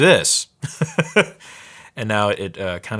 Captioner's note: laughing